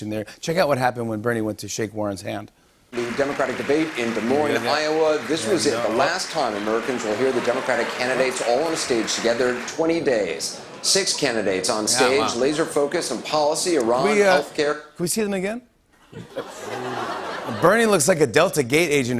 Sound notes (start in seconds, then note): 2.9 applause; 7.2 laughter; 16.0 laughter